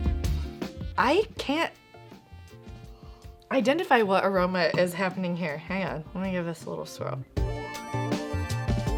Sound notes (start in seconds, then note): 2.7 inhales